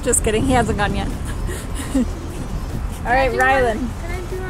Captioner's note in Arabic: يضحك